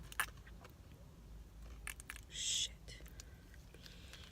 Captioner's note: whispers